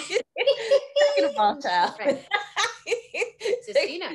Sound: both laughing; laughing

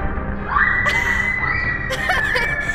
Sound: in video: shrieking; laughter

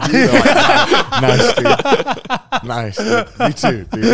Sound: all laughing

